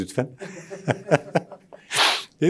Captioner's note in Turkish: Gülüyor